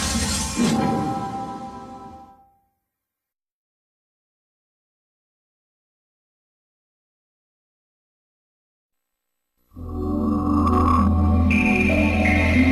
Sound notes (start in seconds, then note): 4.2 silence; 9.7 128-bit video game music